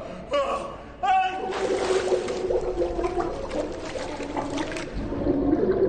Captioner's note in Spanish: Gritos; Borboteo